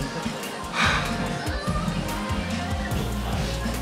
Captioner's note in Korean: 자꾸만 나오는 한숨